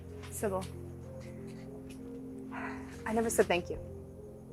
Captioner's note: sighing